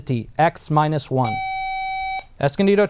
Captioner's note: buzzer